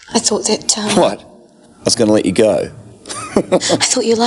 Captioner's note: laughs